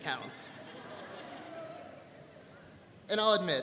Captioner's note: students laughing